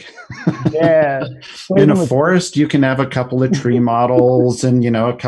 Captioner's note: laughs